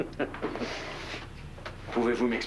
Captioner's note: Petit rire